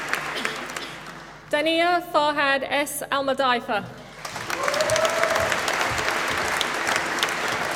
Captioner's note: applause